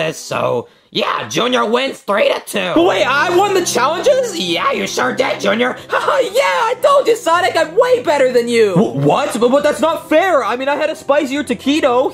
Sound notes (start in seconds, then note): 2.7 calm cheerful music; 6.0 laughs